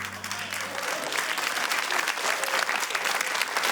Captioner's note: applause